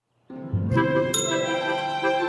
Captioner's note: bell dings